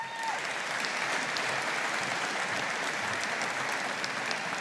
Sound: audience applauding

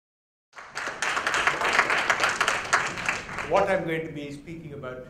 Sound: applause

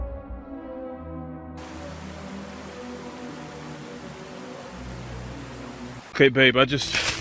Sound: flowing creek

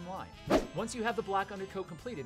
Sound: swoosh

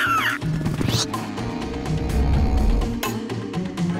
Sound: squawking; snoring

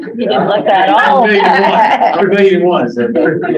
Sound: laughs

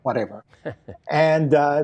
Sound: laughing

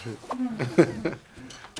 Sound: laughs

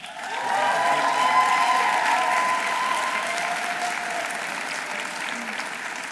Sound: audience applauding; audience cheering

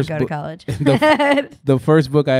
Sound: laughing

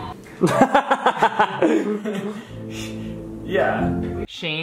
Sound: laughs

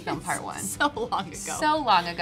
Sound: laughs

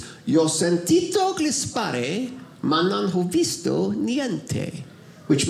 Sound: speaks in Italian

